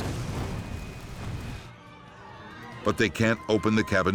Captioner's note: flames roaring; passengers panicking